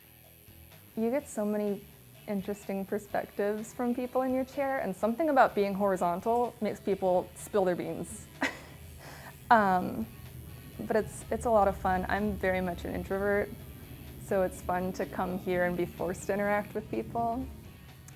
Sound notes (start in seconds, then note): 0.1 low rhythmic music; 10.9 laughing